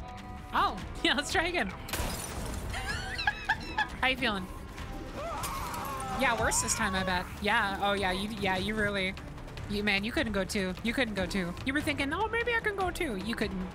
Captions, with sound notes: Oh! Yeah, let's try again. [Laughter] How you feeling? [Screams of Anguish] Yeah, worse this time, I bet. Yeah. Oh, yeah, you- Yeah, you really... You- Man, you couldn't go two. You couldn't go two. You were thinking, “Oh, maybe I can go two!” You couldn’t.